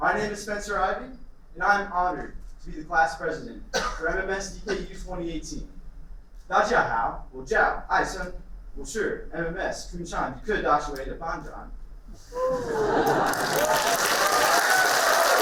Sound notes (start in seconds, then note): 6.6 speaks in Mandarin; 13.0 applauding